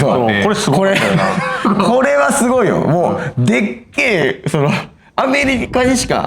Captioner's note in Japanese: 笑い